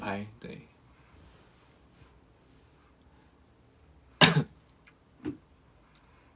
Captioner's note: cOUGh